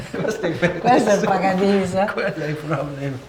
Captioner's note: chatter